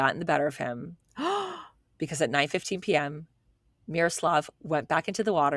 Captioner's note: gasps